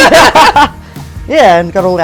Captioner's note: laughing